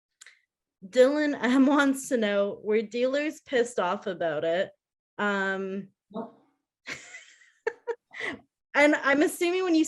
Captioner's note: laughing